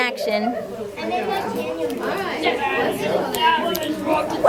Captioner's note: many children talking at once